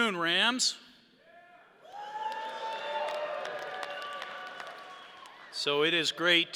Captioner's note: audience cheering